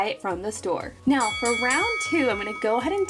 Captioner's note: bell dinging